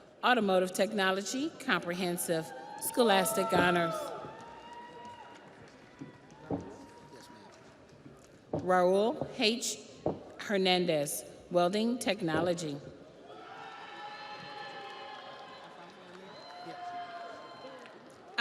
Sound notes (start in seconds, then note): 7.8 audience applauds; 7.8 audience cheers